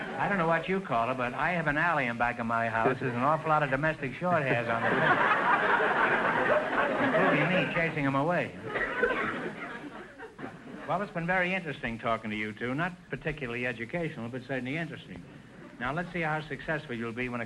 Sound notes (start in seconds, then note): 4.2 audience laughter